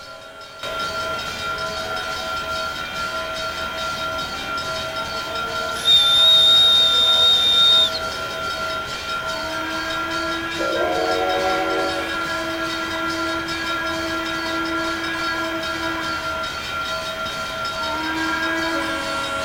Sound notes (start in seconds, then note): 0.1 bell ringing, steam-driven air compressor; 5.7 conductor's whistle; 8.7 multiple steam whistles